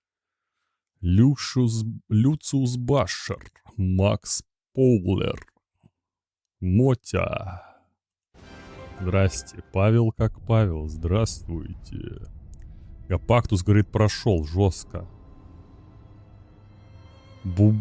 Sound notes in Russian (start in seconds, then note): none